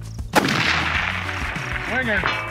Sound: rifle firing

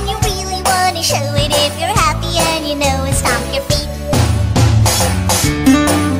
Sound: stomp stomp

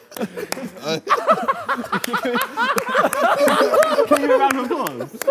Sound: laughter; clapping

